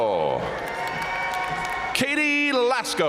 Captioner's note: audience cheering and applauding